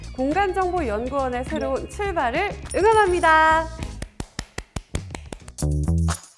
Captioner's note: clap clap